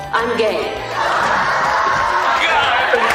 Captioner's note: audience laughing